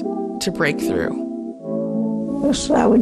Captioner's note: soundbite of archived recording